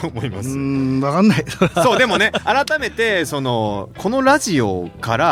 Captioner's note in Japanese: 笑い